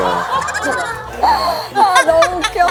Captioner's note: haha